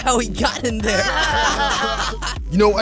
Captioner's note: all laughing